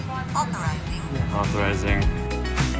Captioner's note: automated Voice